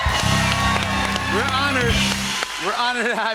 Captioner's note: cheers and applause